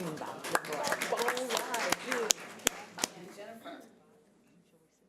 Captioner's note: audience applause